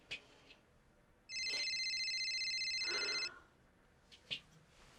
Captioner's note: cellphone ringing